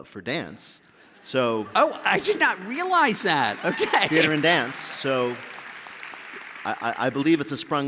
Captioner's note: applause